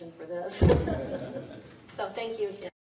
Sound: laughs

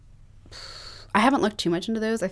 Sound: sighs

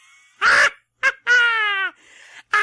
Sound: laughter

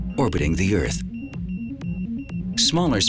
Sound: station beeping

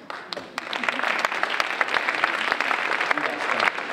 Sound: audience applauding

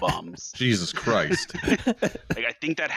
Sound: laughter

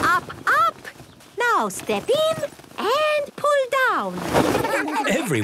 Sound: laughter

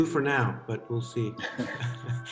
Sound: laughter

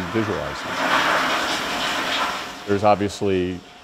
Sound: toilet flush

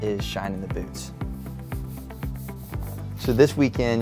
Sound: rubbing sounds

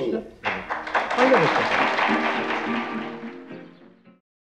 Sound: audience applauding

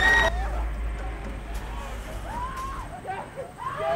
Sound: screams from inside

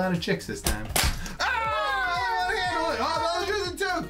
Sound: all yelling in excitement

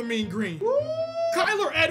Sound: Razorback Hog Call

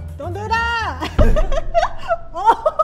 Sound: bowl hits mic; laughs

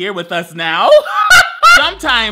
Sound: laughs

